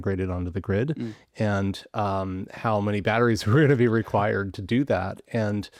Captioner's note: chuckling